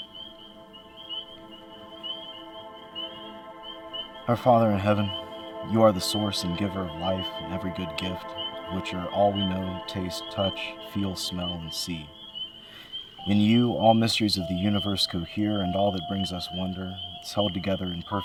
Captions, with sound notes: (frogs peeping) (enchanted music) Our Father in Heaven, you are the source and giver of life and every good gift, which are all we know, taste, touch, feel, smell, and see.